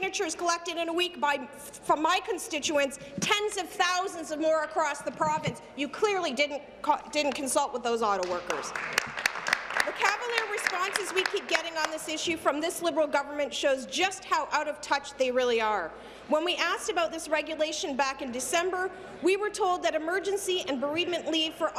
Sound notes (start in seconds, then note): 12.7 applause